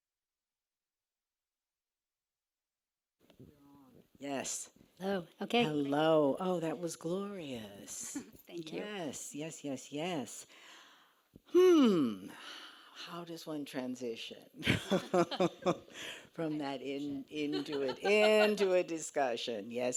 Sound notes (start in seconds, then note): 14.6 laughs